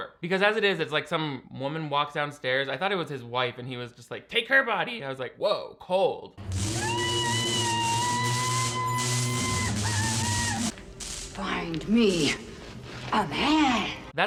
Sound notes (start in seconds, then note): 6.7 woman screaming